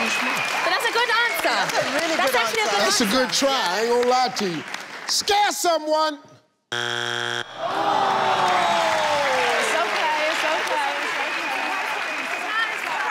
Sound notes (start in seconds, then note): 0.0 audience clapping; 6.7 buzzer sounds; 7.5 audience awing